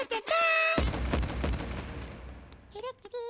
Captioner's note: knock knock